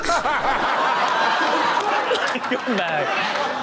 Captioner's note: guest laughs